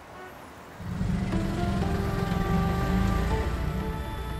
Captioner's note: rickshaw moving